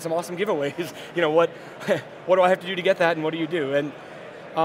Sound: laughing

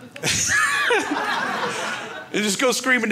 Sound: laughs

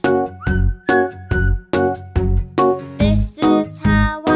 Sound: whistling

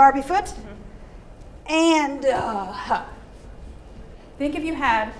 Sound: exhaling

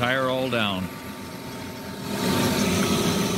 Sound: motor whirring

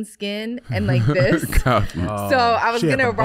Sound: Iman laughing

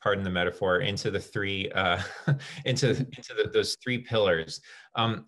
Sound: laughter

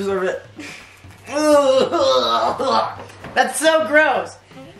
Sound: groaning

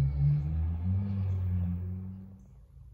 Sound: motorcycle revving up

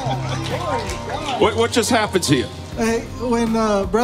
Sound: laughs

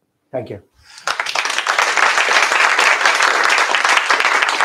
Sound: applause

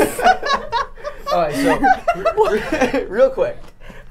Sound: all laughing

